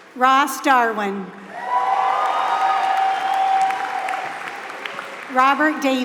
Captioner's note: applause